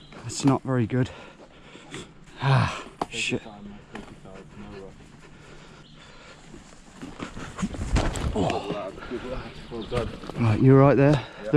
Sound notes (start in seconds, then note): 7.8 loud thud